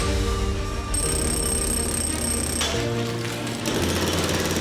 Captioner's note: drilling; uplifting music